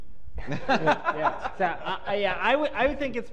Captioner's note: laughter